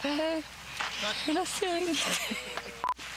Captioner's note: rires